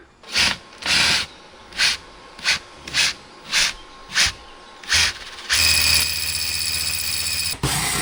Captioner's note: drill whirring